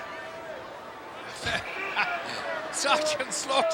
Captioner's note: laughs